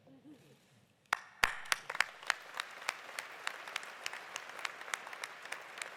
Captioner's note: audience applauding